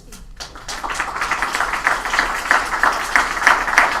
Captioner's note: applause